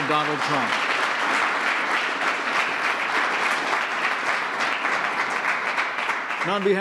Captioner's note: applause